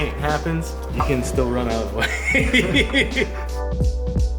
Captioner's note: laughs; smooth techno music